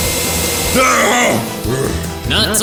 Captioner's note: brobot inhales; bowser screams